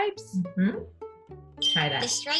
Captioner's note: bell chimes